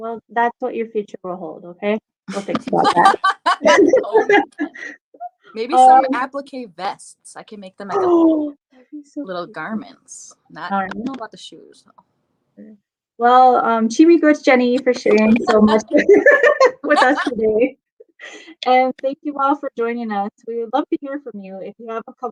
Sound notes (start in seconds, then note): 13.5 speaking Ojibwe